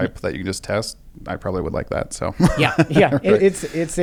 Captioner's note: laughs